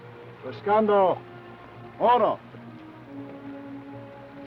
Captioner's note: Chief speaks foreign language; speaks foreign language